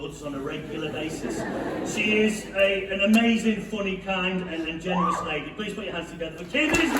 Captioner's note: laughter